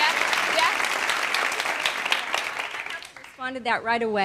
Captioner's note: clapping